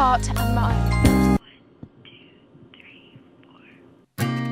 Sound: whisper

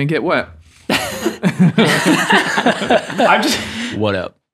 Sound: laughs happily

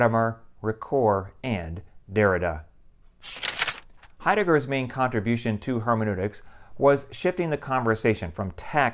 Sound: page turning

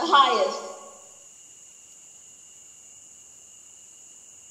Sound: crickets chirping

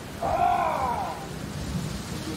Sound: growl

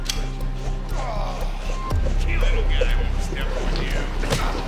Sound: whirring; grunting, groaning; music intensifying

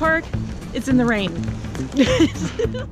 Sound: laughing

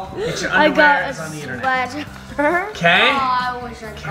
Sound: chuckles

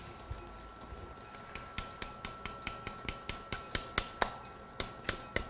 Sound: hammering with mallet

